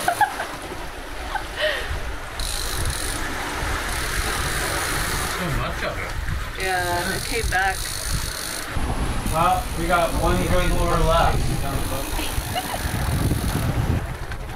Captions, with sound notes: [laughing] [wind blowing] So much of it. Yeah, it came back. Well, we got one good lure left.